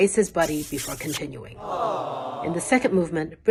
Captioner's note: awwwww!